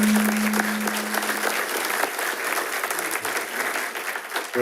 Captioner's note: attendees applauding